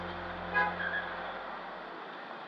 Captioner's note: car horn honks